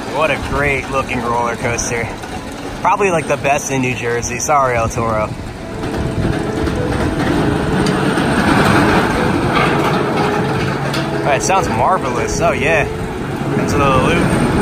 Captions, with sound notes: What a great looking roller coaster. Probably like the best in New Jersey. Sorry, El Toro. [sound of wheels on steel] It sounds marvelous, oh yeah. Then's a little loop.